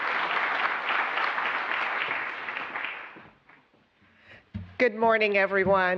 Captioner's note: applause